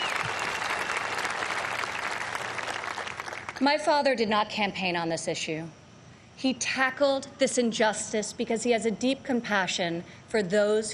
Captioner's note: applause